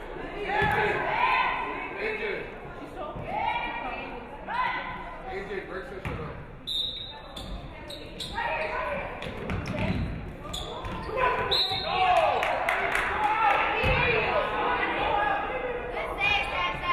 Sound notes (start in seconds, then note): 6.6 referee whistles; 11.4 referee whistles; 12.1 audience clapping